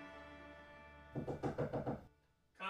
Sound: knocking

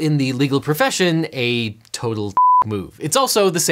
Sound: beep

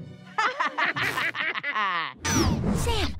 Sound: laughter

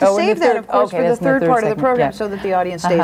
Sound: overlapping chattering

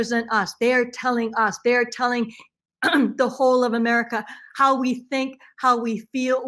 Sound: clears throat

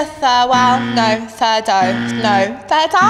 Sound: incorrect buzzer

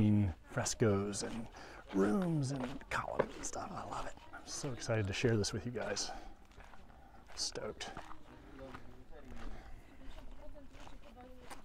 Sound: background chatter

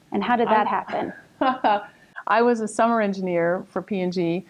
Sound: laughing

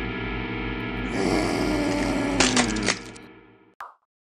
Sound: doggo growling

